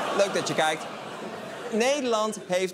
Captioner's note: continued shocked laughter